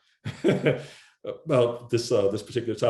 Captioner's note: laughs